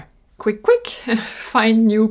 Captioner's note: giggles